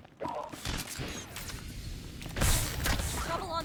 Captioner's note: gunshots